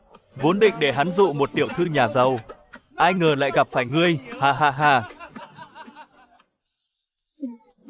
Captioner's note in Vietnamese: tiếng cười